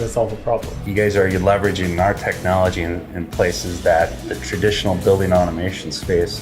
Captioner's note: pat